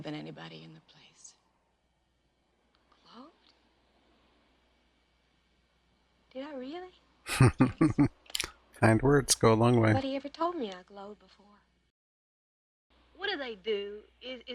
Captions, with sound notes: [Chuckling] Kind words go a long way.